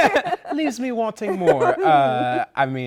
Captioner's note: laughter